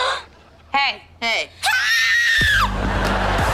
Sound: screaming

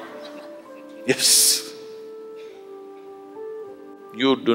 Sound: laughs

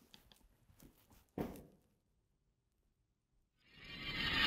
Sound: muffled thud

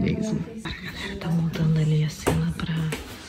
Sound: indistinct chatter

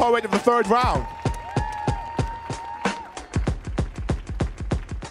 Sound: audience cheering

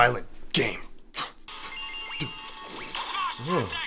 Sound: video game noises

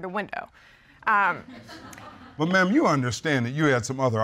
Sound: audience titters

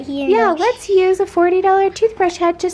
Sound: brushing sounds

